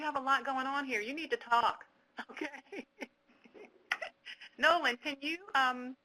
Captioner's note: laughs